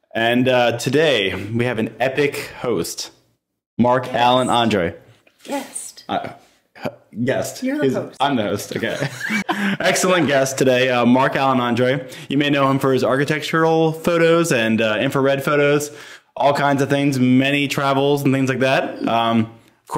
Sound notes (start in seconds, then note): 8.6 laughing